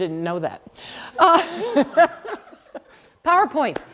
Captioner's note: laughter